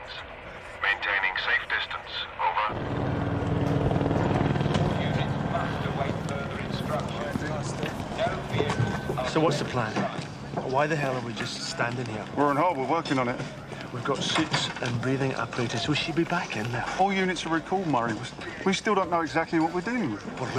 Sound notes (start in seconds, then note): 4.3 man over speaker